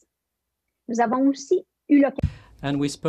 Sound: French

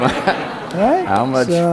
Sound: laughter

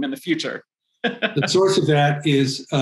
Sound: laughs

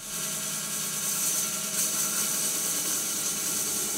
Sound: saw whirring

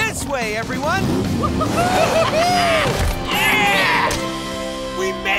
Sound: cheering

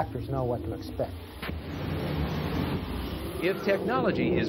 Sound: fire firing

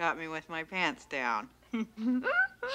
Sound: Sheila laughs

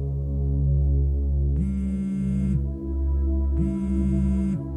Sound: phone vibrates

